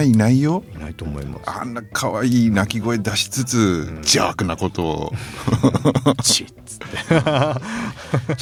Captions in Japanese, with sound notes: いないと思います。 あんな可愛い鳴き声出しつつ邪悪なことを うんちっつって。[笑い]